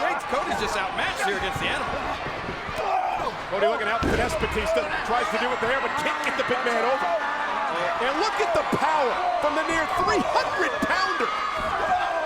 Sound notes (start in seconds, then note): 2.7 fighters grunting; 4.0 body thudding